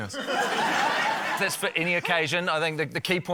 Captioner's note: laughter